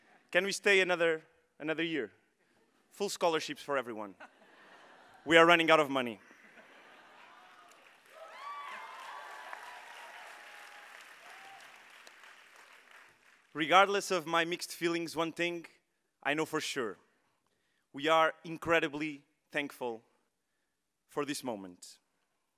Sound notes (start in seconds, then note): 6.2 all laughing; 8.4 audience cheering